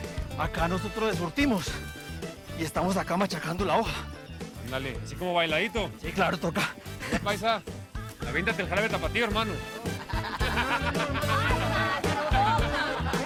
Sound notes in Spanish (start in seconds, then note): 9.8 Exclamaciones